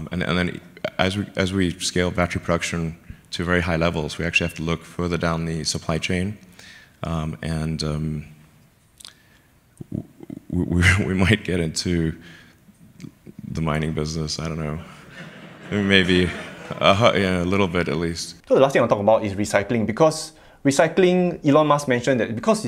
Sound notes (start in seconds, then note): 10.8 laughs; 14.8 audience laughing